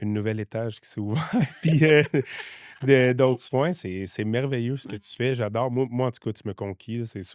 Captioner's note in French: rires